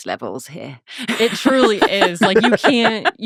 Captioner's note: laughing